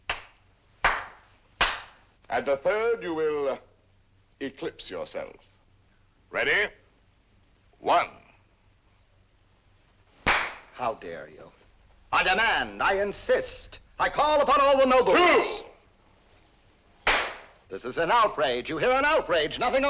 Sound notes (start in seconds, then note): 0.8 three claps; 10.2 clap; 17.0 clap